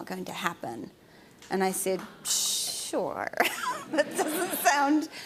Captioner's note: laughs